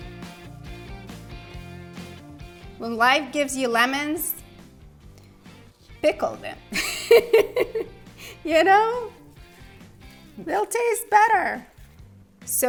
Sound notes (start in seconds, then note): 0.0 upbeat music continues; 6.8 laughs